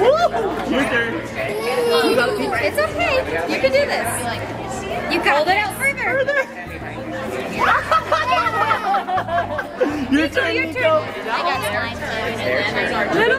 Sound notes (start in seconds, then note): 1.8 nervous giggles; 7.5 surprised gasps